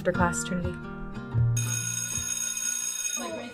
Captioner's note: school bell rings